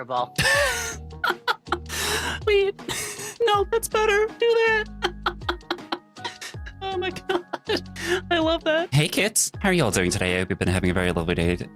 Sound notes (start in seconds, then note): 1.2 laughing; 5.0 laughing